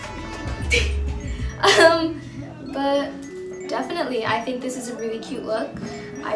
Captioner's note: laughs